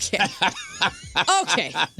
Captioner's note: laughing